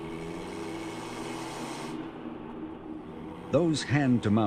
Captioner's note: engine rumbles